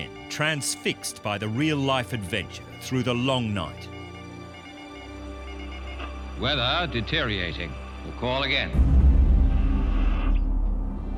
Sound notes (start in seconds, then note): 4.5 morse beeping continues; 9.4 ominous music